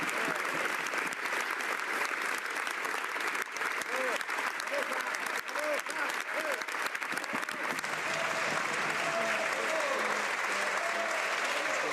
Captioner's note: some Applause